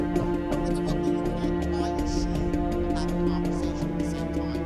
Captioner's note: indistinct chatter